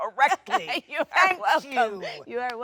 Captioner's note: Jennifer laughs